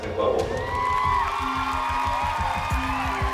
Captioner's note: cheering, whooping